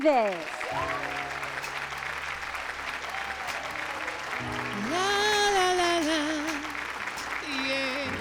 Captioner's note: cheers and applause